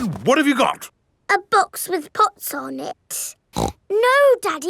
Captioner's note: snorts